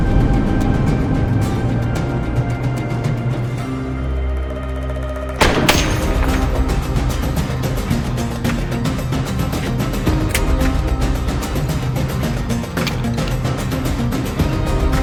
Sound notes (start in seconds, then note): 5.4 gunfire blasts; 10.7 dramatic upbeat music continues